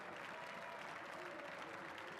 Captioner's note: cheers and applause